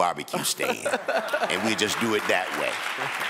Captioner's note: some people chuckle